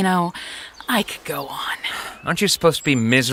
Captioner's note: sighs